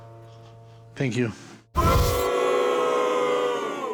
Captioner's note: crowd boos